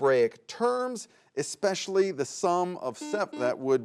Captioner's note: buzzer buzzes